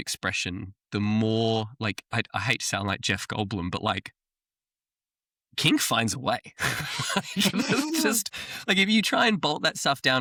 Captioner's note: laughter